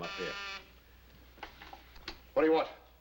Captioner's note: buzzing